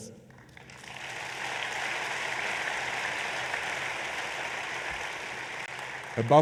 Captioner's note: applause